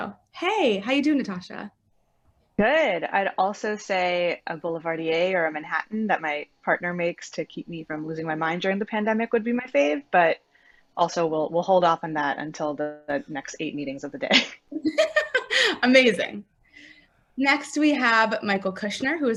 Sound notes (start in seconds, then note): 14.7 laughing loudly